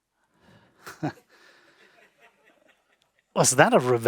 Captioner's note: all laughing